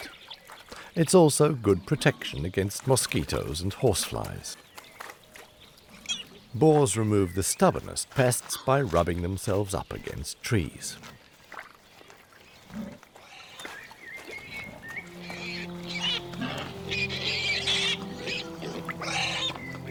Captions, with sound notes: It's also good protection against mosquitoes and horse-flies. Boars remove the stubbornest pests by rubbing themselves up against trees. [boar squealing]